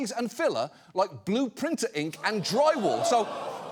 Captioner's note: audience groans